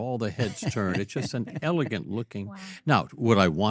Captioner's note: laughs